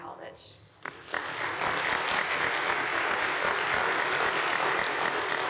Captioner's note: audience applauding